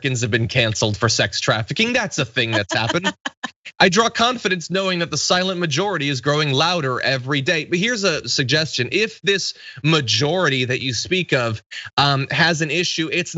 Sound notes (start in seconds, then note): 1.8 laugh